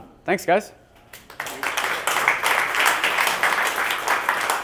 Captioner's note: applause